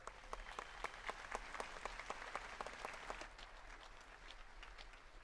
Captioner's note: attendees clapping